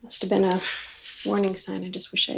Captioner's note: none